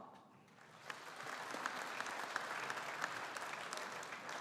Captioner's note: audience applauding